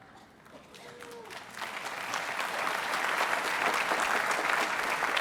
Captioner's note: applause